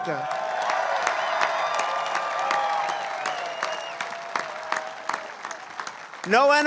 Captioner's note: applause